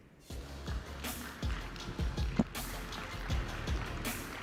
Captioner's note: audience applauding